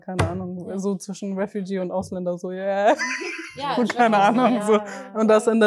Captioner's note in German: Gelächter